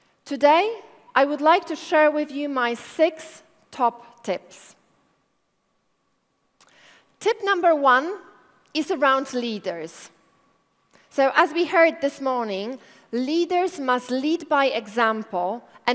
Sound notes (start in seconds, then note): none